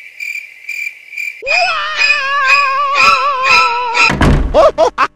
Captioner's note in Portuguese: gritos estranhos